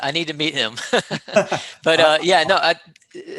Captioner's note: laughing